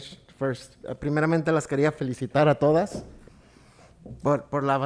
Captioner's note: speaking Spanish